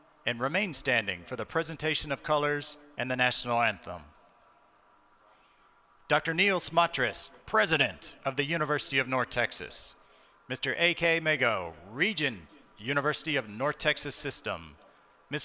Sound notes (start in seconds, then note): none